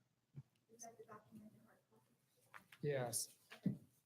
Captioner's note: speaking faintly; speaking faintly